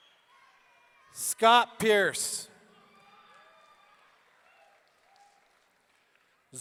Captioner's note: audience cheering